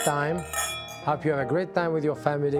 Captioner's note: glasses clinking